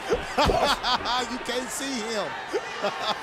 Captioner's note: laugh